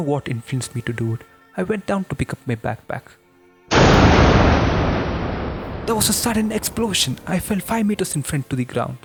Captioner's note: boom